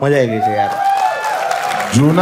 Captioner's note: crowd applauding